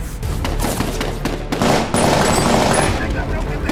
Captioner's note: gun firing